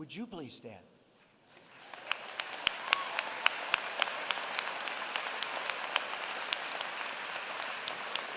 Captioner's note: applause